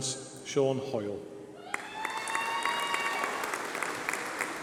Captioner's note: applause